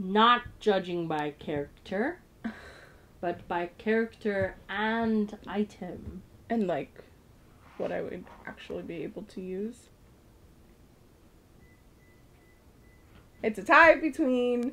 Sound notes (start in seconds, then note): 2.3 laughs